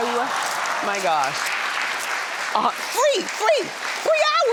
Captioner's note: audience applauds